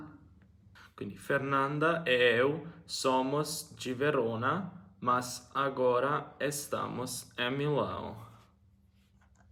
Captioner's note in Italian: prova a parlare in portoghese